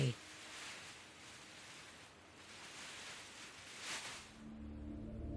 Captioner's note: wings rustling